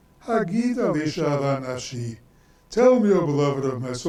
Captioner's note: speaks in foreign language